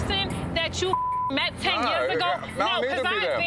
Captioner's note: beep